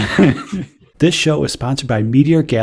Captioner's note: laughter; voiceover